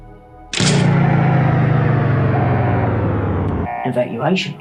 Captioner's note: alarm blares